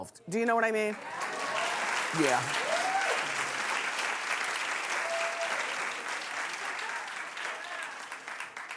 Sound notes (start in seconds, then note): 1.2 cheering